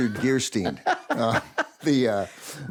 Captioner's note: laughs